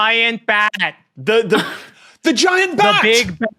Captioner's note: cracks up